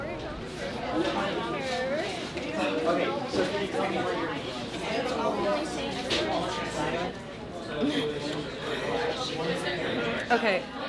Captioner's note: people talking